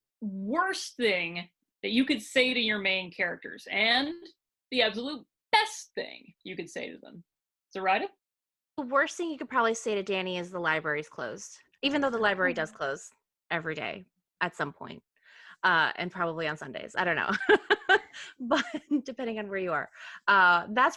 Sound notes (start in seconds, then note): 17.3 laughing